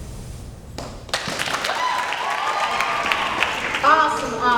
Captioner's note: applause